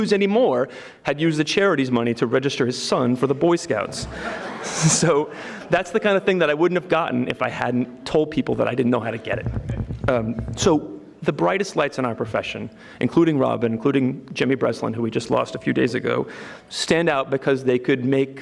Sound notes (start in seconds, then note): 3.8 audience laughing